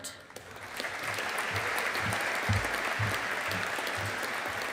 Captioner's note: audience applauding